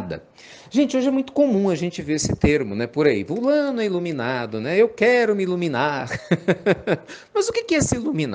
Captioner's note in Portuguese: Risos